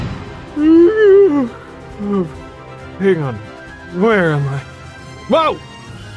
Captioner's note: yawnnnnnnnn